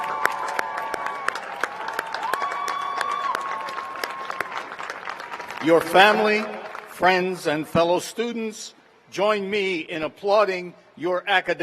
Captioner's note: applause; cheers and applause